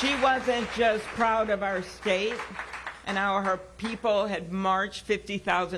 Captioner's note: applause